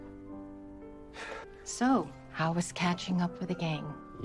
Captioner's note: sighs